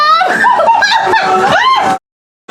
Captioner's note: laughter